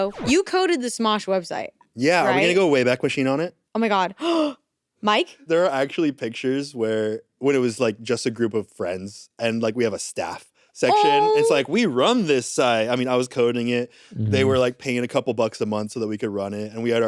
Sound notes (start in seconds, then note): 4.6 gasps